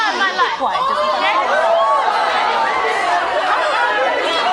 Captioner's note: audience booing